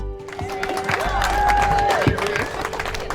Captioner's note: audience cheering and applauding